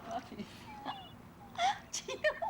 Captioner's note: laughing